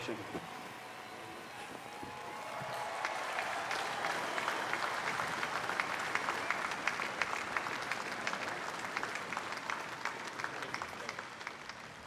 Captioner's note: applause